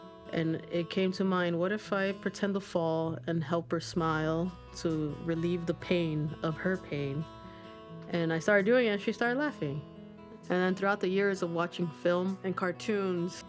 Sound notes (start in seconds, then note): none